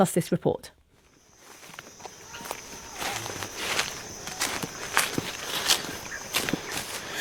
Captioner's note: footsteps